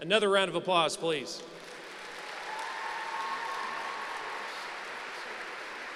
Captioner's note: applause